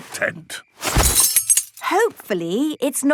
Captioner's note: clang-ruffle-thump